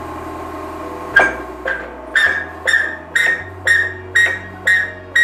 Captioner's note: machine squeaking